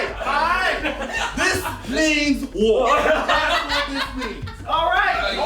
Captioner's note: all laughing